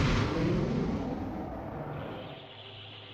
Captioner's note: space noises hum